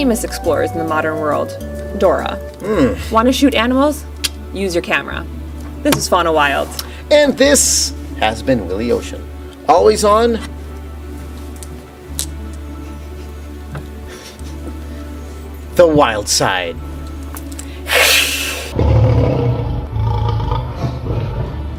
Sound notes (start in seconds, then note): 4.0 click sound; 17.4 making sound of hissing cat; 18.3 sound of tiger growl